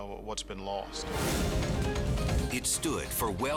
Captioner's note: scene swooshing